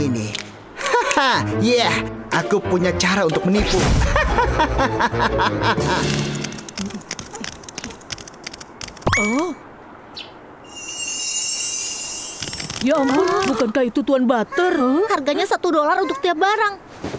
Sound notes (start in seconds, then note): 3.9 maniacal laughter; 6.7 sighs; 9.1 surprised gasp